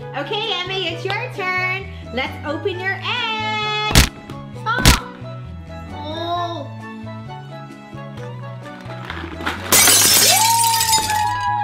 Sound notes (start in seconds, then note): 3.9 cracking noises; 9.4 glass breaking; 10.2 kids and mom cheering